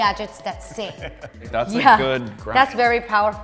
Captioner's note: laughing